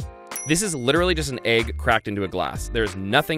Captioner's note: dings